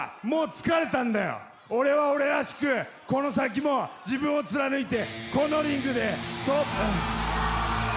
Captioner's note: speaking foreign language